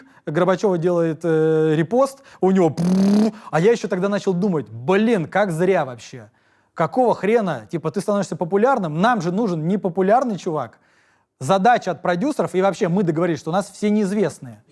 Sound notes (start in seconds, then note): none